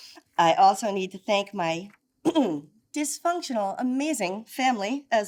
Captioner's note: clears throat